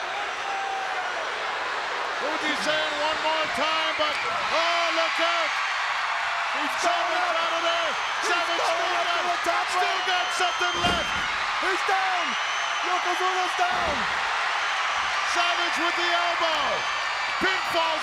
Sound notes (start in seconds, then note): 5.3 audience cheers; 8.2 commentators chattering; 14.2 audience cheers